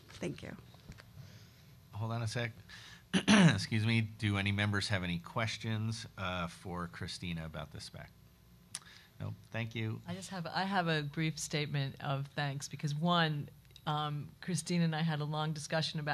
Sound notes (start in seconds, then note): 3.1 coughs